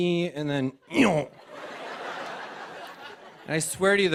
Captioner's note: laughter